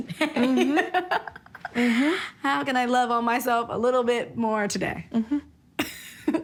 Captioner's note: laughs